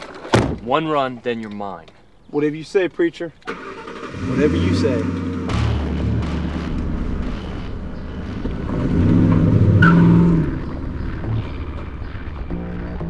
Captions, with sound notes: One run, then you're mine. Whatever you say preacher, whatever you say. (engine rumbling)